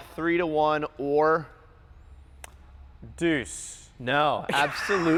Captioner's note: laughs